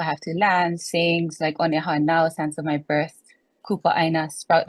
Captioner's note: speaks foreign language